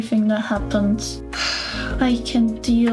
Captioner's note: heavy sigh